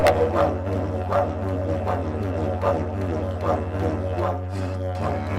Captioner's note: none